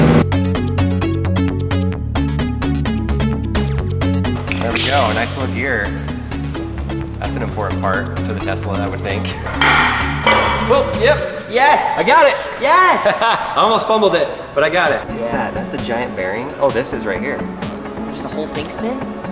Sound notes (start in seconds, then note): 0.2 upbeat electronic music; 9.4 hammering; 12.9 laughing